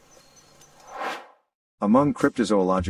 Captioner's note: air swooshes